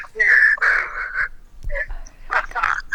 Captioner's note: laughs